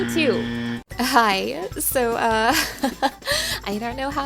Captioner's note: laughing